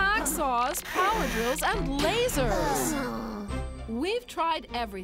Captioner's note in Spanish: suspiran frustradas